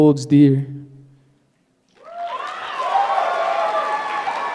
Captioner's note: applause